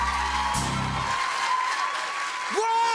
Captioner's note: cheers and applause